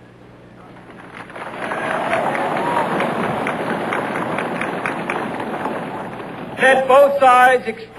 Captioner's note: applause